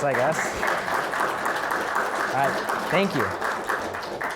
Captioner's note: audience applauding